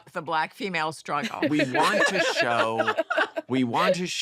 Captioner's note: laughter